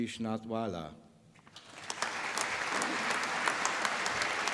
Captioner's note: applause